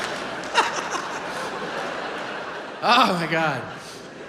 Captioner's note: audience claps; laughs